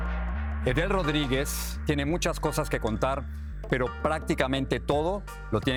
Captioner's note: speaks in foreign language